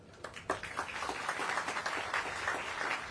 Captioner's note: applause